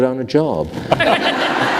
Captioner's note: laughter